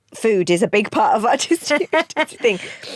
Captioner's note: both laugh